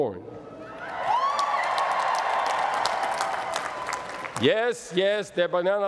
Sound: cheering

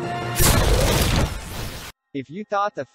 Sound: explosion

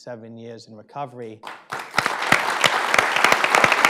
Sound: applause

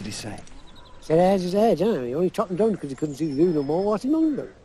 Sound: speaks in impenetrable accent

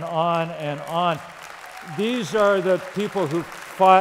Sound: applause

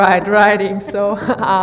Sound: laughs

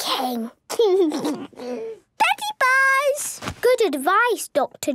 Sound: laugh

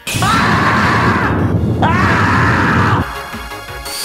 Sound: Wrecking Ball rage roar!

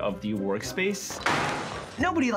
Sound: computer crashing

